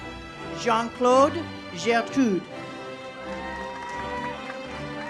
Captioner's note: audience applauds; uplifting music